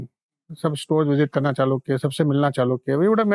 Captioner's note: speaking in Hindi